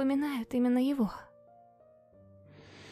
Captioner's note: noisy air inhalation